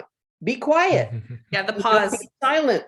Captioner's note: laughing